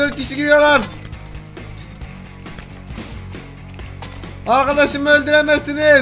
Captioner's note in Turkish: kavga sesleri̇